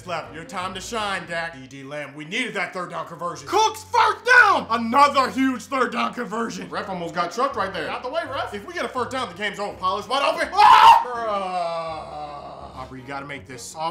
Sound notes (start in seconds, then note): 10.5 screams